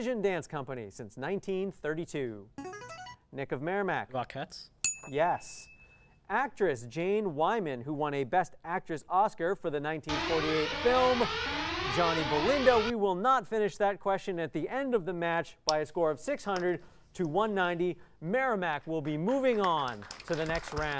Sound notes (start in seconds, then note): 2.7 player buzzer; 4.8 ding; 10.0 sirens